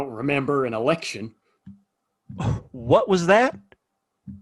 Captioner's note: huffs